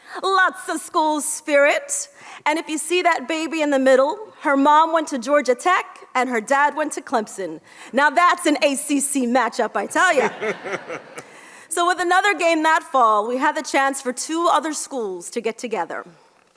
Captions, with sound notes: Lots of schools, spirit. And if you see that baby in the middle, her mom went to Georgia Tech and her dad went to Clemson. Now that's an ACC matchup. I tell you. (audience laughs) So with another game that fall, we had the chance for two other schools to get together.